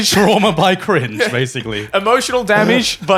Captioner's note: chuckles